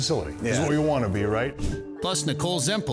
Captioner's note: air whooshing